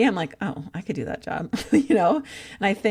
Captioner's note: laughs